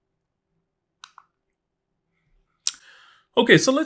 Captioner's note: remote clicking